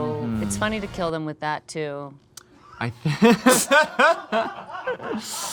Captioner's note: group laughing